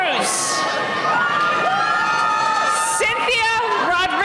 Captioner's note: cheering